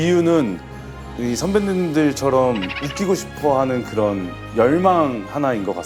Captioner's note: hahaha